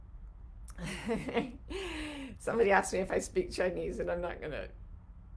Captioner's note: laughs